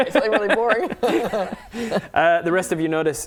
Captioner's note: laughs